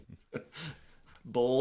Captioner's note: laughing